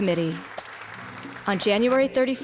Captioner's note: audience clapping